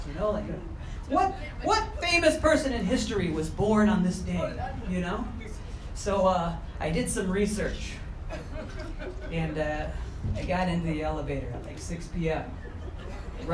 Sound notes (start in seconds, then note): 8.2 crowd chuckling